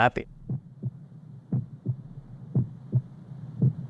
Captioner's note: heart thumping